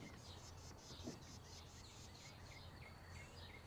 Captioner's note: none